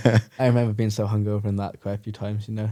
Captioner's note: laughing; laughs